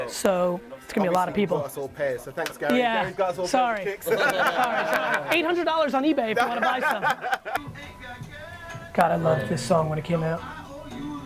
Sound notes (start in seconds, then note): 3.8 laughing